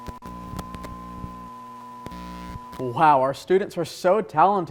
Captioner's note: static